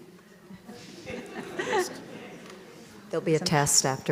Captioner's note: audience chatter; audience laughs